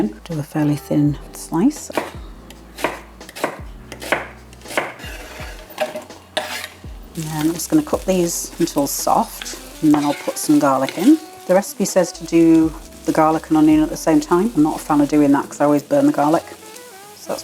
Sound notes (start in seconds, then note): 4.6 chop chop chop